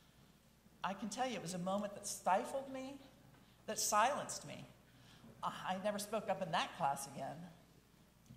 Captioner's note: none